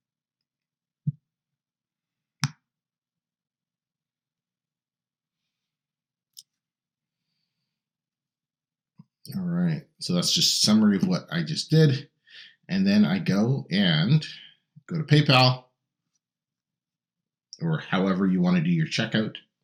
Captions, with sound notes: (mouse clicking) All right, so that's just summary of what I just did. And then I go and go to PayPal, or however you wanna do your checkout.